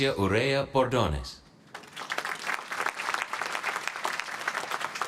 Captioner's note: applause